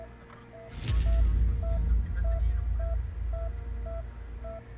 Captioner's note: heart Monitor; heart Monitor